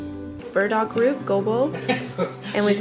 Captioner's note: speaking foreign language